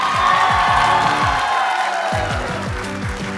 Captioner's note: applause